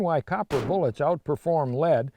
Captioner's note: bullet shot